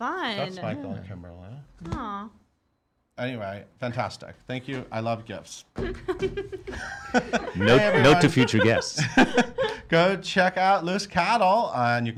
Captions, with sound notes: - Fun. - That's Michael and Kimberly. Anyway, fantastic. Thank you, I love gifts. (laughing) - Note to future guests. (laughing) - Go check out Loose Cattle.